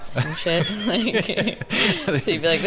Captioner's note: laughs